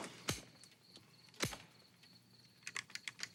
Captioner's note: gun clicking